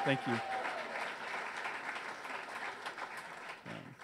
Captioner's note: audience cheers